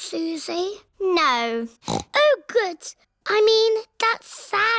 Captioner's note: snorts